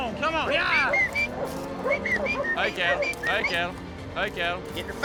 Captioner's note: whistles